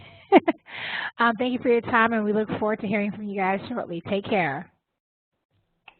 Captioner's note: laugh